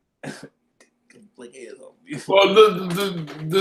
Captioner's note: chuckles